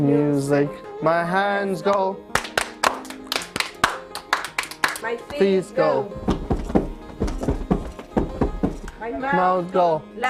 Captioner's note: clap; stomp